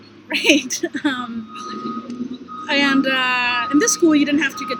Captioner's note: laughter